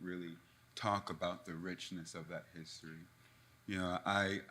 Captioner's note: none